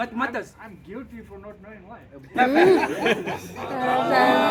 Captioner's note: laughter